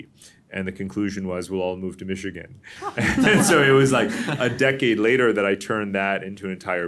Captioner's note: laughter